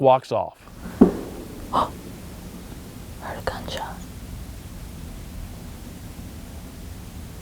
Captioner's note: whispering